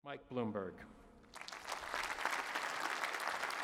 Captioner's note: applause